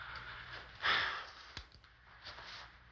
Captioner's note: sighs